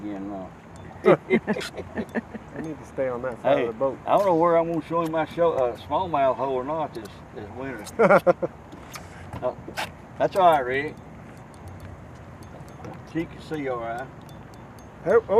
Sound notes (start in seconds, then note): 7.8 laughing